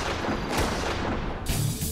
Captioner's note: gunshot